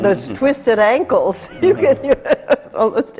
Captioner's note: laughs